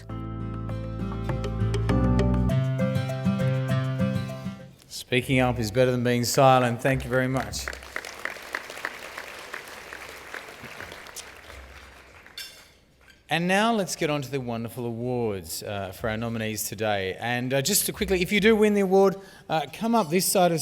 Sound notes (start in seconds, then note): 6.3 applause